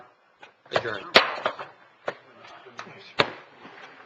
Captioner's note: gavel banging